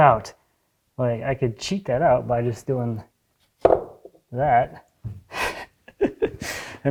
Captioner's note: laughs